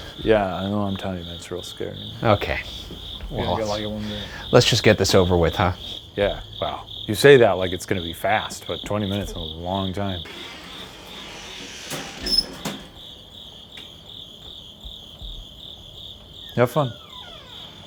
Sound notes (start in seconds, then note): 10.7 door creaks; 12.8 crickets chirping